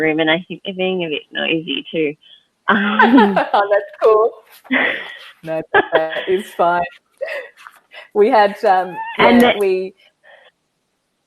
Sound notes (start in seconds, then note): 2.8 chuckles